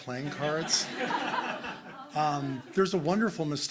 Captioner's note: crowd laughing